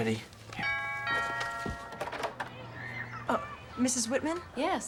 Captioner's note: doorbell rings